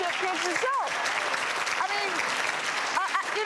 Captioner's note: audience clapping